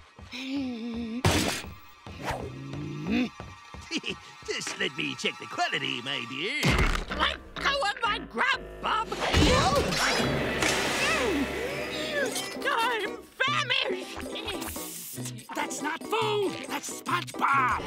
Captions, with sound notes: [groaning] [chuckles] Just let me check the quality, my dear. Let go of my grub, bub! Mm. I'm famished! Psst. That's not food, that's SpongeBob.